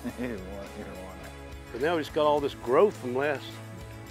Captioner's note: chatter